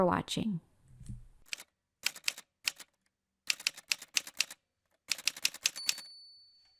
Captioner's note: typewriter sounds